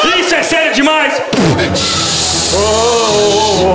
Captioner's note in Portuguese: barulho de freio de ônibus